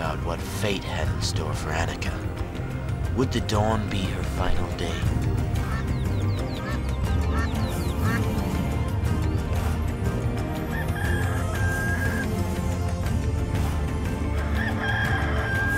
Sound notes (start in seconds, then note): 11.2 rooster crowing